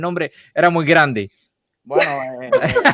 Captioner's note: laughs